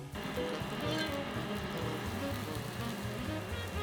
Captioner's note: burner humming, vegan butter sizzling